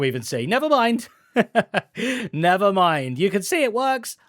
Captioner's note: laughs